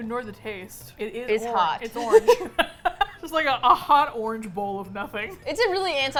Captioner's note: both laugh